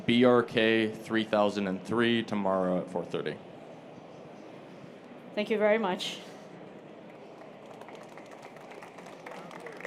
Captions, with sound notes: >> THAT'S BRK3003 TOMORROW AT 4:30. >> THANK YOU VERY MUCH. [ APPLAUSE ]